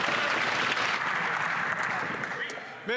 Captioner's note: some Applause